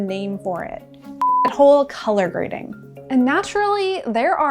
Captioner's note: beep